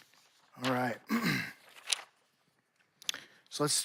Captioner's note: clears throat